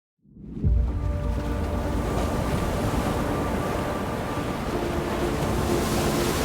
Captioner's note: gentle music; waves crashing